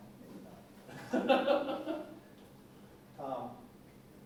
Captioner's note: laughter